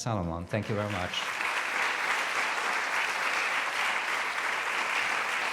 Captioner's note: audience applauds